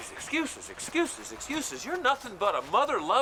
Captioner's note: groans